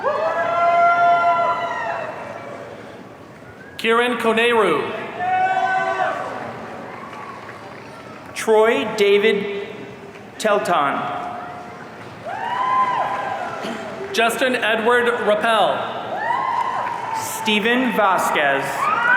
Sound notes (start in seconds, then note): 0.0 audience cheering; 5.2 audience cheering; 12.2 audience cheering; 18.9 audience cheering